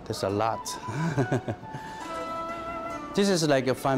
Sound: laughs

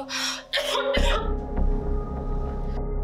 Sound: singer coughs

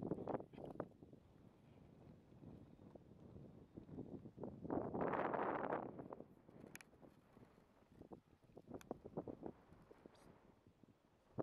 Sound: sound of wind and Indistinct whispering - asleep

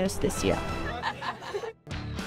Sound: laughter

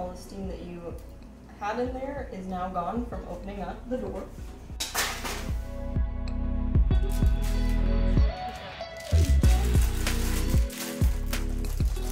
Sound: parchment paper crinkles

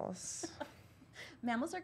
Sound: laughter

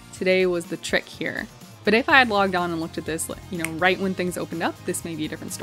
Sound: snaps

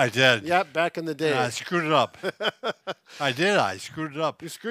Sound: laughs

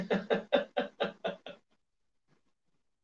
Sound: laughs

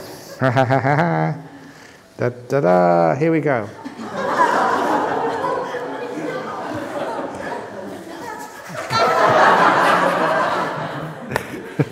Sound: laughter

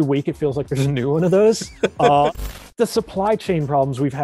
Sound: laughing

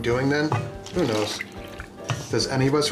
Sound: splashing

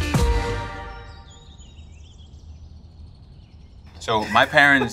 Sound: upbeat music; birds twittering

